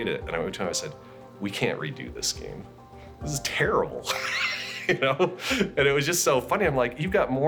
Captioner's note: laughs